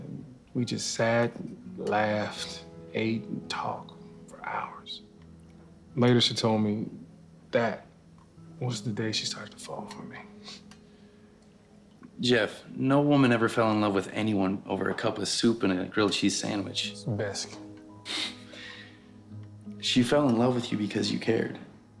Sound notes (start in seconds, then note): 17.9 laughs